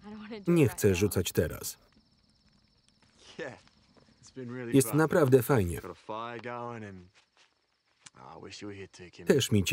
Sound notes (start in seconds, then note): 1.4 crickets chirping